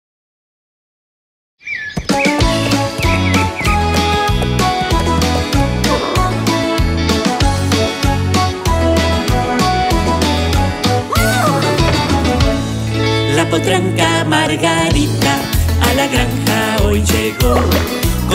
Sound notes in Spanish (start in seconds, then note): 1.2 Música alegre; 1.2 Sonido de Relincho; 1.6 Sonido de pájaros